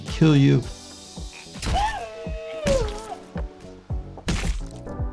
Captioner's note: character shrieks